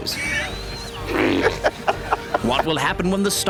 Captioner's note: laughing